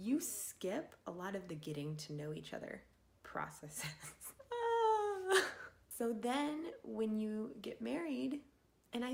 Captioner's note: laughing